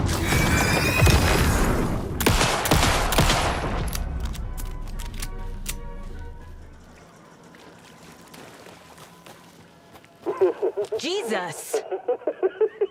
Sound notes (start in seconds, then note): 0.9 gunshots